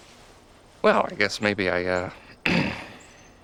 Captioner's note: clears throat